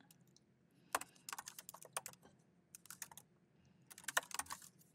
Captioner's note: keyboard clacking